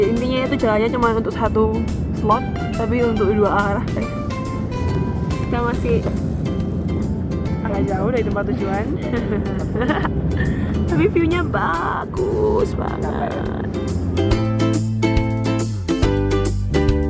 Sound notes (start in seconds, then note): 8.9 happy laugh; 9.0 nervous laugh